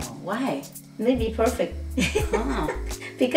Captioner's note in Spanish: risas